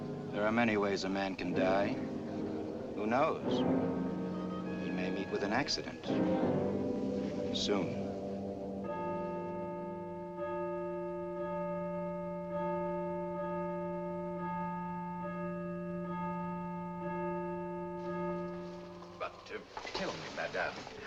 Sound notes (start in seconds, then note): 8.8 bells ringing